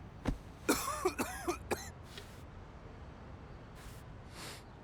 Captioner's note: David coughing